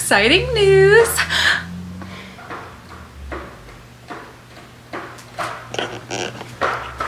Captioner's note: cat making noise